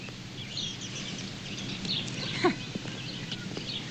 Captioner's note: scoffs